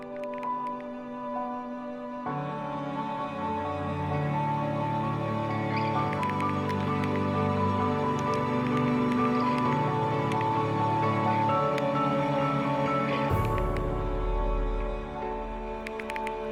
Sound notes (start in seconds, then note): 4.1 typing on keyboard